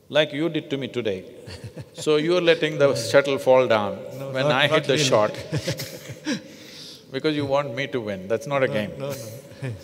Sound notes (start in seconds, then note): 5.0 both laugh